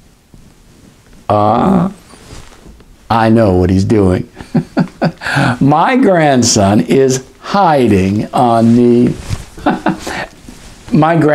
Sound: laughter; laughter

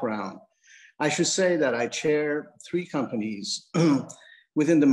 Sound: clears throat

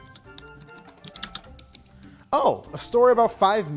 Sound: keyboard keys clacking

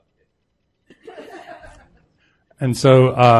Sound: audience laughing

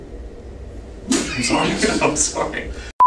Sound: laughter

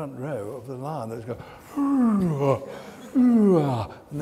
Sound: lion noises

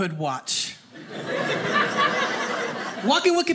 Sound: audience laughing

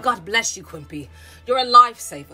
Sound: none

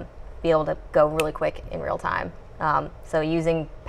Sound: snaps fingers

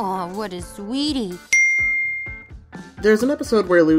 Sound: chimes

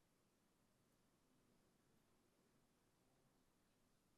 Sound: none

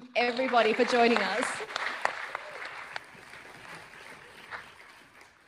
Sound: audience applauding

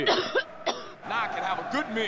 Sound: coughing

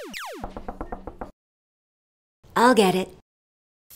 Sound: door knocks

